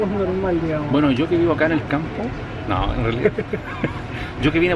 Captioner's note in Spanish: risas